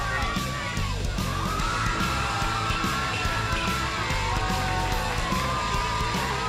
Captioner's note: crowd cheering